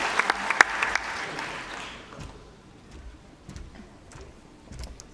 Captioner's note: applause